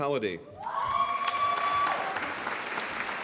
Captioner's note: applause